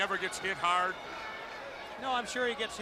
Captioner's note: crowd chatter